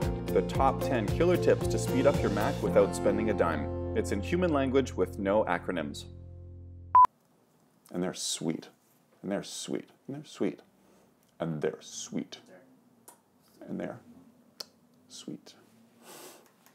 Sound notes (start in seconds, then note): 6.9 loud beep